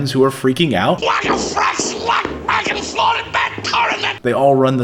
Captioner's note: hollering